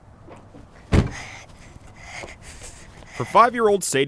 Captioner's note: door closes